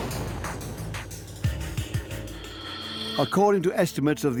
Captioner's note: mine explodes